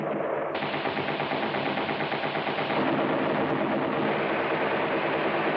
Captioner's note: heavy gunfire